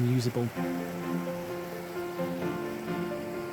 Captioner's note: sound of river flowing